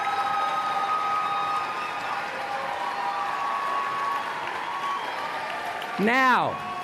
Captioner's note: applause and Cheering